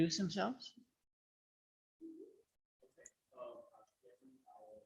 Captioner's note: people talk indistinctly